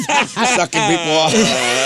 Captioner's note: laughing